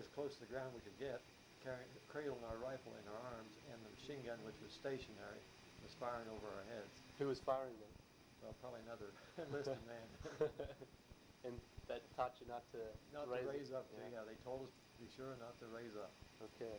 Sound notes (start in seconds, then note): 10.2 both chuckle